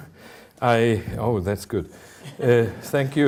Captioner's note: audience chuckling